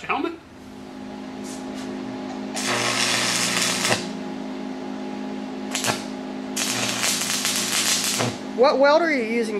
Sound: welding

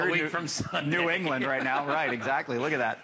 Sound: laughter

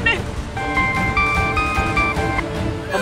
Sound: mobile phone ringing

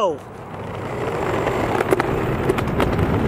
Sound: whirring

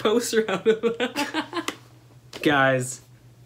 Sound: laughter

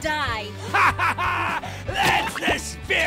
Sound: laughing

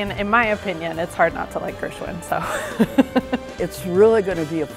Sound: laughing

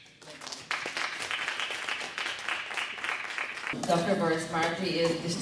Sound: audience clapping

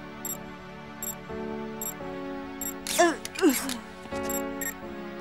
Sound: steady beeping

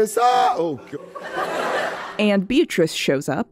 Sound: laughter

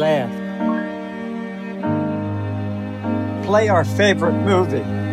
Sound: computer beeps

